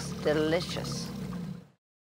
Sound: growling

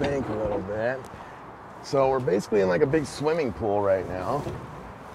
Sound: none

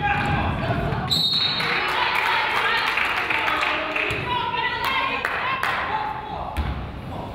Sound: whistle blows; crowd applauds

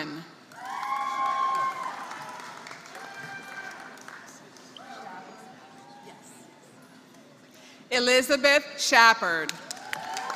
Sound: applause; applause

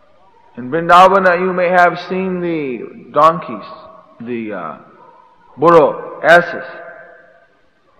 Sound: Spanish

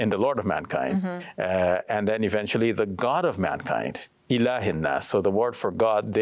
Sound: speaks in Arabic

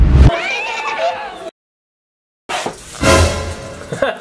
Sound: giggling; cymbal clash

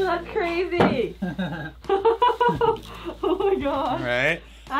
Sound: both laughing

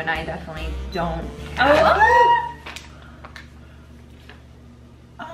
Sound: both exclaiming

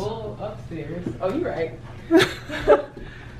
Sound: laughs

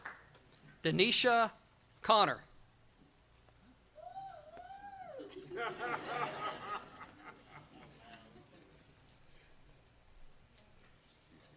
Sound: applause

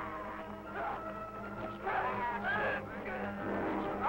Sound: troops yelling

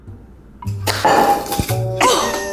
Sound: violent bag rip

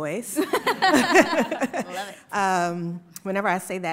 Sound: panelists laugh

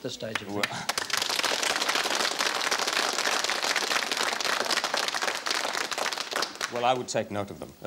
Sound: applause

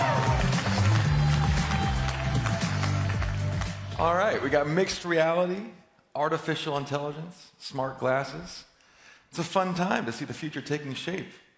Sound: cheering

